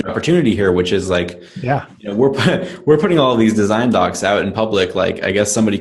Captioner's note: laughs